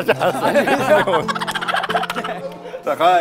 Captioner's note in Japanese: ｗｗｗｗ